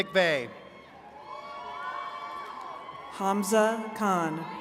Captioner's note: attendees cheering